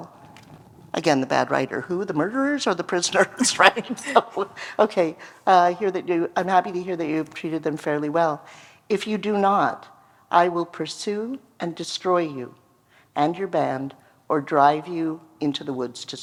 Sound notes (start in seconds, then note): 3.8 laughter